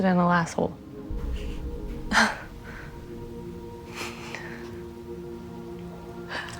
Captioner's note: quiet scoffing, laughter